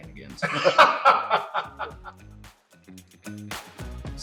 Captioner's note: laughing